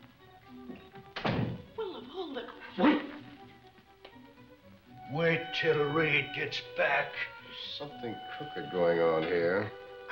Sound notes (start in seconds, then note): 0.3 dramatic music; 2.7 groans